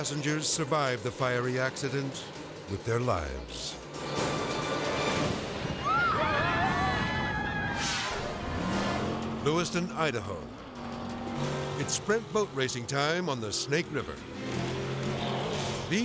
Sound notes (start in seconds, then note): 3.7 edgy dramatic music; 5.4 propane exploding; 5.7 people screaming; 7.8 screen exploding; 10.7 boat buzzing; 14.2 boat buzzing; 14.2 dramatic music